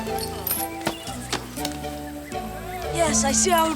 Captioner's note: rock thuds